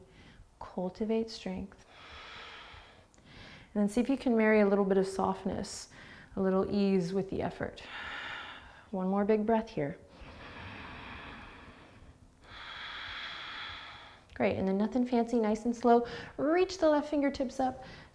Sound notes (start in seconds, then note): 10.1 inhaling and exhaling